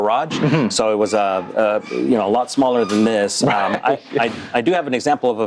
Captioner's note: laughs